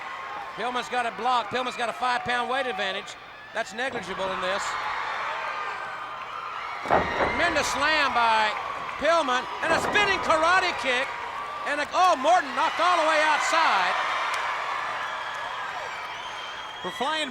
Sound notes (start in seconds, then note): 6.8 body thudding; 9.6 blows thudding; 14.8 crowd cheering